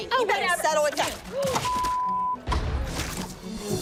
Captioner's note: gasps